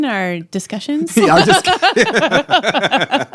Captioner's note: laughter